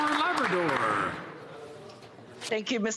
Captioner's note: some Applause